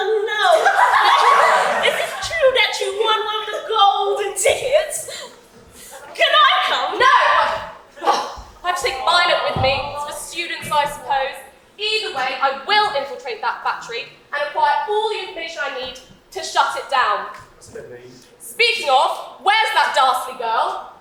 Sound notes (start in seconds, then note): 0.4 audience laughs; 7.3 audience awwws